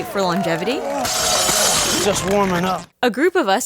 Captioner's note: barbell clanging